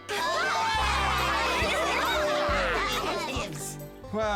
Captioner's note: cheering, laughing